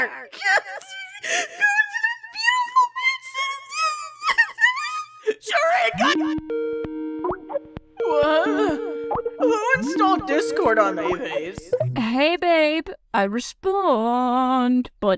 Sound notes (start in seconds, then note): 5.9 Skype ringtone playing